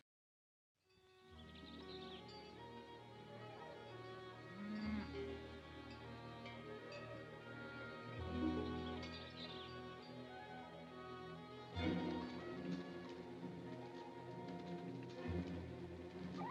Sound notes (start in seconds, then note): 1.0 soft music; 1.2 birds singing; 11.7 suspenseful music; 16.2 animal squawks; 16.2 suspenseful music